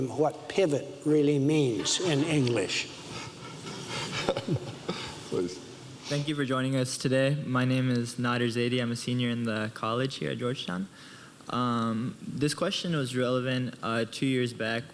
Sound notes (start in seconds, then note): 3.1 audience laughs